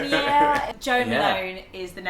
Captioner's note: laughter